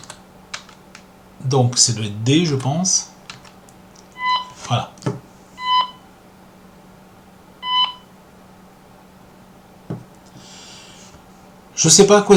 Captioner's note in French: on entend les bip